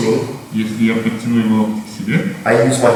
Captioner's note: speaking in a foreign language